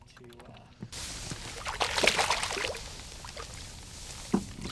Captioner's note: fish splashing